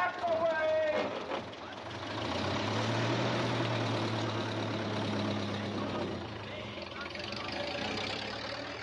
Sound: vehicle reversing

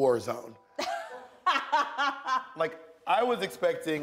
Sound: laughs

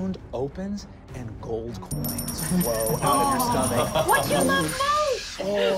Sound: jingling

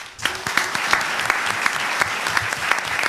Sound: applause

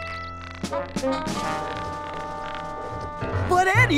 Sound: distraught tone

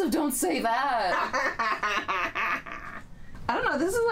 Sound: laughing

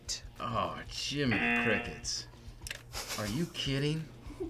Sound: buzzer; laughs

